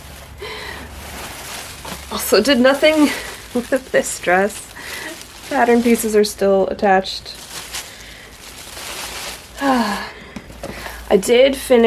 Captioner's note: laughs softly; sigh